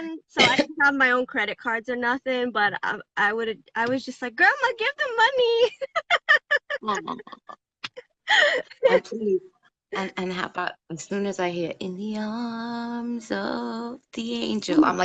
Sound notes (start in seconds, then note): 5.6 laughs